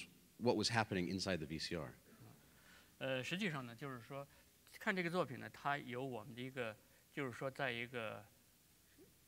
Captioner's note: speaking in Chinese